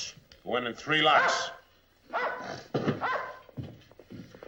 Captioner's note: dog barking